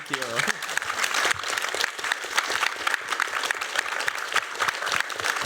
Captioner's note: applause